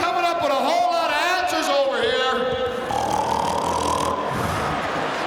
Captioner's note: snores